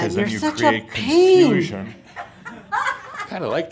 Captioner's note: some chuckles